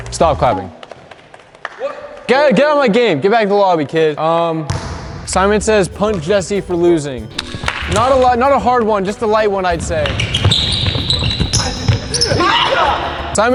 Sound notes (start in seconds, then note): 10.4 sneakers squeaking; 12.2 screams